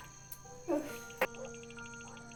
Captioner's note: sigh